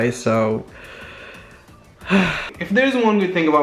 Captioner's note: sigh